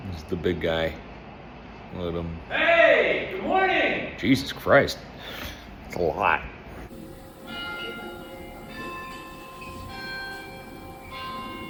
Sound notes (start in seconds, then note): 7.0 clock chiming